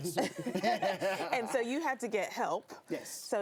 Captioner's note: laughing